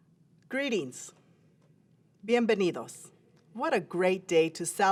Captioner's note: foreign language